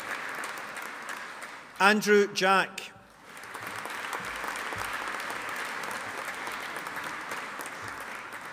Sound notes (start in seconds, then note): 3.1 audience applauding